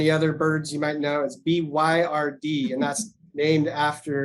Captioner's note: laughs